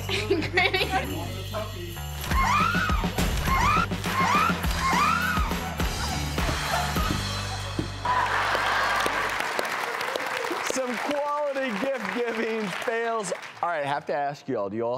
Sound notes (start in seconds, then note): 2.2 woman screams; 8.2 audience applauds